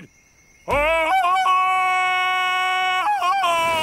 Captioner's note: ululating